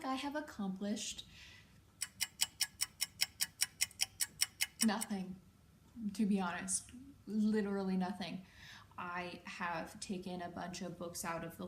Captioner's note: click ticking